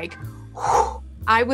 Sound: whoosh

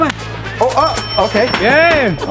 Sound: cash register dinging

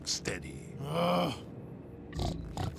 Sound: groaning; snorting

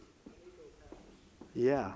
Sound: audience member talking in the background

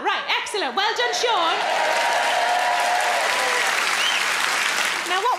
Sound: crowd cheer

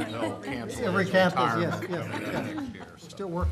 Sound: laughter

